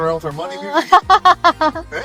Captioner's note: laughing